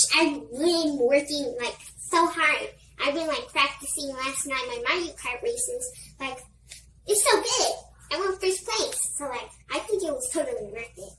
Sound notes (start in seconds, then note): none